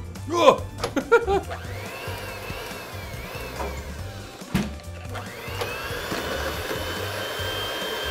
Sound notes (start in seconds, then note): 0.7 laughs; 0.8 mixer whirring